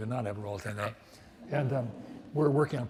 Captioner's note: audience laughs